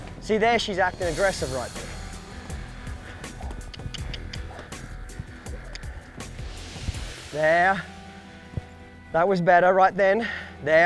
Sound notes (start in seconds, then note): 3.2 tongue clicking